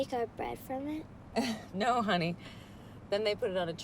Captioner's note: laughs